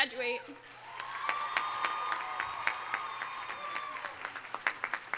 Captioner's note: audience applauding